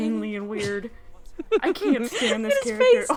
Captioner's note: giggling